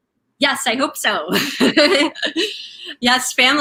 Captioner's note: laughing